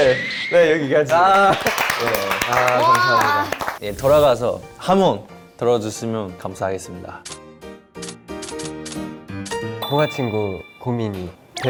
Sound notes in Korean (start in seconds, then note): 1.0 박수